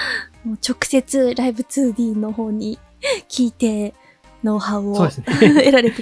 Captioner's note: chuckles